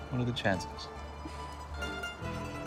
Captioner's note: laughs